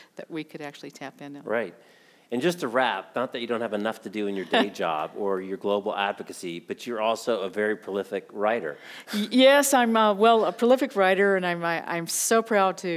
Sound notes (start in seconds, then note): 4.3 chuckling